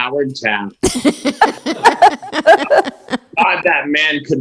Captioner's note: laughs